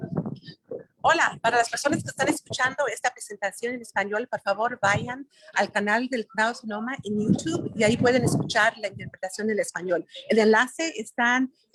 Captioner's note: talking in Spanish